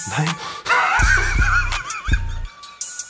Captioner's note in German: Lachen